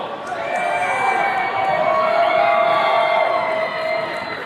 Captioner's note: attendees cheering